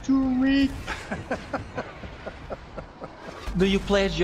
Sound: Sir Attenborough Laughs

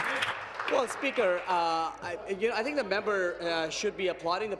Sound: applause

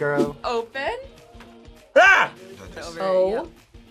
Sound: yells

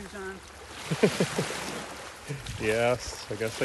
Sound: laughs

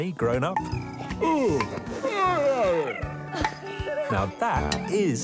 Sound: yawning

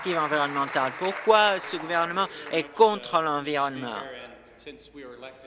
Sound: applause

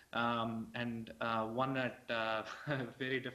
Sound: laughs

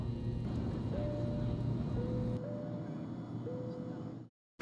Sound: airplane ambience

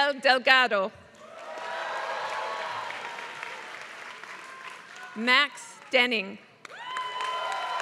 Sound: applause

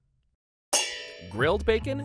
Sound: pans clanging

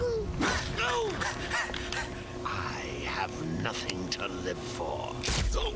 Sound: laughs

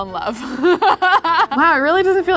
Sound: laughs

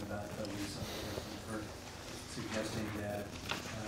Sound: heaving breathing

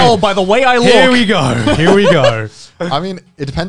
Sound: laughing

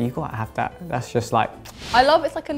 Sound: kisses

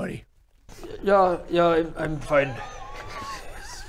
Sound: hesitant

